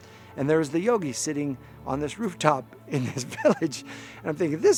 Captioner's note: chuckling